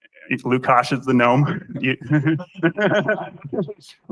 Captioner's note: laughter